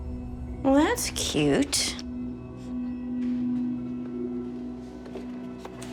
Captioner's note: papers rustling